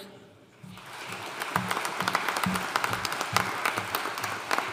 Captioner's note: audience applauding